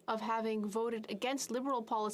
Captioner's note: speaking French